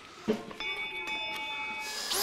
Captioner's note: Glockenläuten